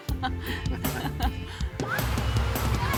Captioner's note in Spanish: Gritos de alegría